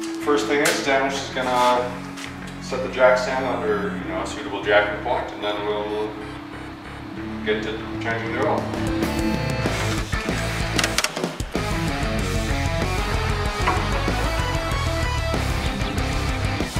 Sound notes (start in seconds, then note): 10.7 clicking